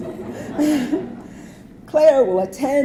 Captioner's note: audience laughing